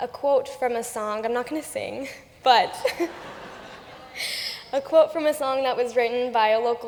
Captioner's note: laughter